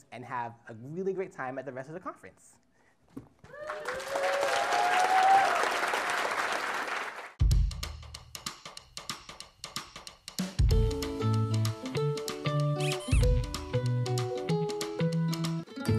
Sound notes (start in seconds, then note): 3.5 applause